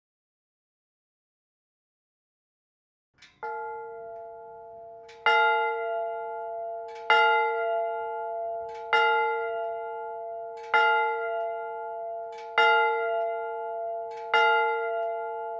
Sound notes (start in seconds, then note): 3.5 bell chiming